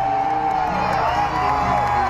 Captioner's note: cheering